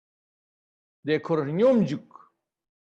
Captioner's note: tibetan